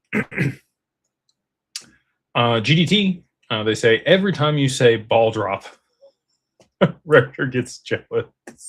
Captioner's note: clears throat